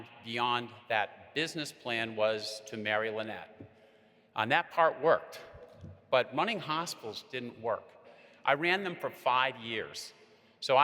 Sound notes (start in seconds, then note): none